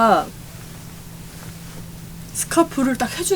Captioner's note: swooshing